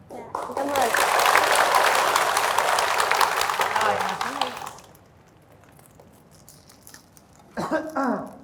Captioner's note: applause